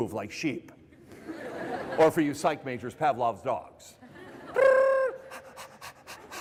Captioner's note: panting; laughter